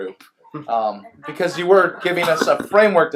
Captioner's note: laughs